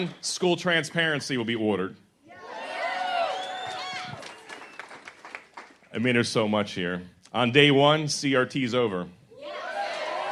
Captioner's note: cheers